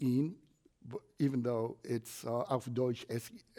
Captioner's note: foreign language